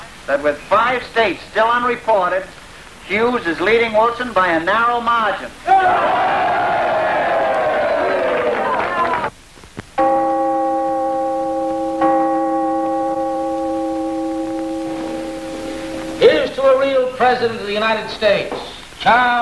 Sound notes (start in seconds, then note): 5.6 crowd cheering; 10.0 clock chiming